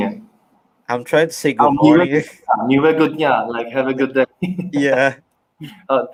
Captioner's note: risos